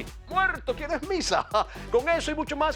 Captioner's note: laugh